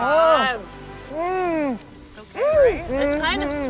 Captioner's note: exclaim happily